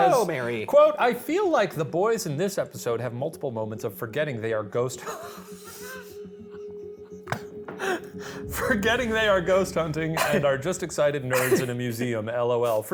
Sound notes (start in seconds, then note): 5.0 laughing